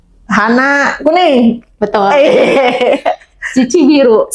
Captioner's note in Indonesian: tertawa; tertawa